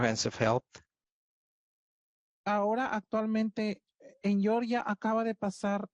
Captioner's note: speaking Spanish